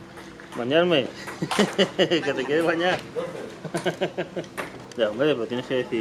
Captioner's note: laughing